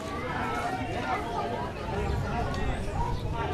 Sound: people chatting and walking

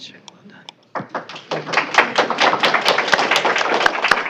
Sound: applause

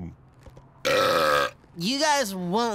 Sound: belching

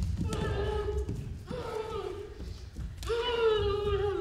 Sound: cries and groans

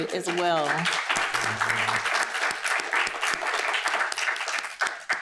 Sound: applause

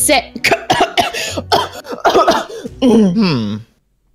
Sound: coughing

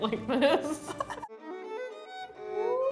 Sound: laugh; bright violin music

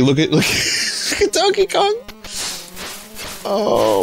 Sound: laughs

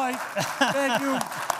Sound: applause

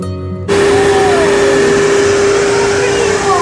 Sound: dryer roars

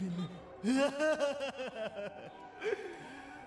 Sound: laughs

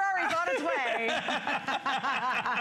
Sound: laughter

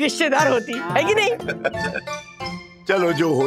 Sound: laughs

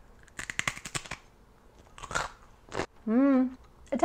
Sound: woman chewing

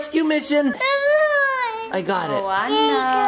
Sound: cries

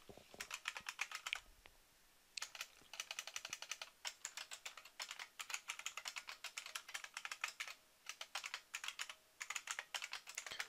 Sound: typing

